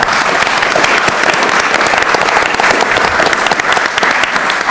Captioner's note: audience applauds